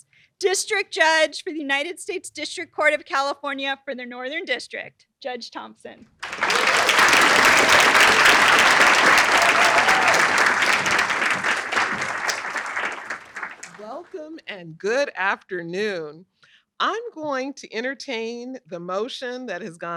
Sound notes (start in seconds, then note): 6.2 applause